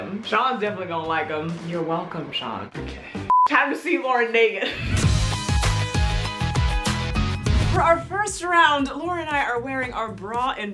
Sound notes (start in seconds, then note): 3.2 beep